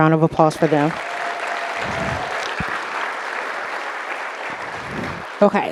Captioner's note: audience applauding